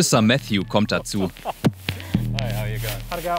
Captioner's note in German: Gesprächsausschnitte auf Englisch